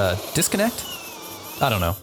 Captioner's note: power tool buzzing